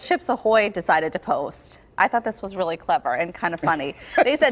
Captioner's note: laughter